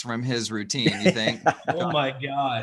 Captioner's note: laughs